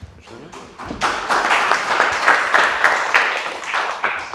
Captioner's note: audience clapping